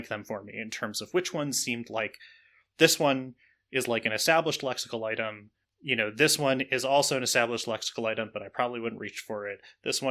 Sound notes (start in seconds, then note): none